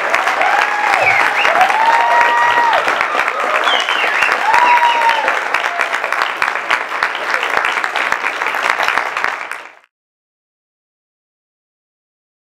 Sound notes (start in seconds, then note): 0.2 applause; 3.1 cheering